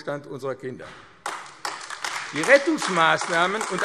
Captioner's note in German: Beifall AfD